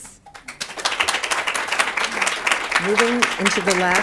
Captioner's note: applause